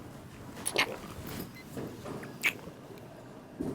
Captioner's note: lips smacking